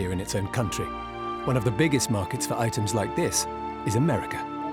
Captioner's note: none